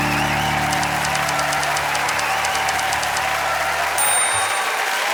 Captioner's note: audience cheers and applauds; typewriter keys clicking; bell dings